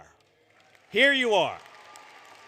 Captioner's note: applause